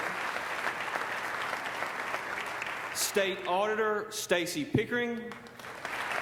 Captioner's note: applause